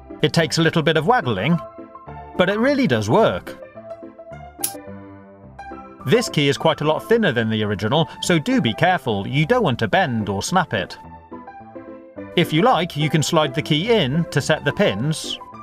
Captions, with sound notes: It takes a little bit of waggling but it really does work! [LOCK CLICKS OPEN] This key is quite a lot thinner that the original so do be careful; you don't want to bend or snap it. If you like you can slide the key in to set the pins